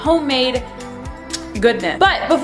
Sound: kissing

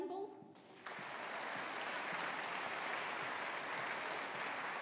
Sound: audience applauding

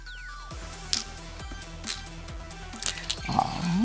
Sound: stones clattering

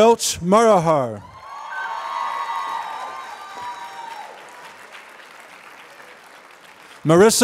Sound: applause

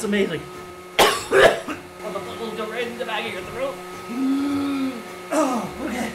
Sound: coughs

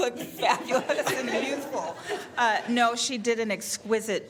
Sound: laughter

